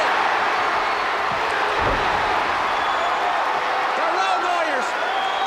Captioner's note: crowd cheering